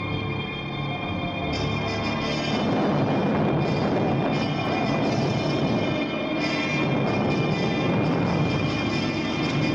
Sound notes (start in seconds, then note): 0.5 wind howling; 1.8 thunder crashing